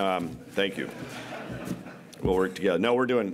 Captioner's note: coughs; laughter